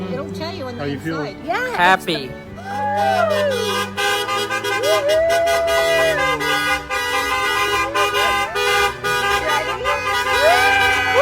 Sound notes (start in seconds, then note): 2.9 gente aplaudiendo; 3.0 bocinas de coches sonando